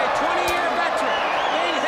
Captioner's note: crowd cheering